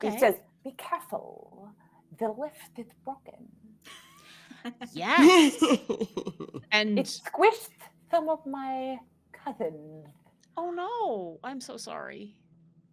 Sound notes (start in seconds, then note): 5.2 all laughing